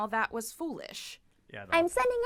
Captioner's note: quietly